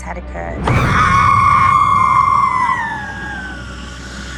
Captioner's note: screaming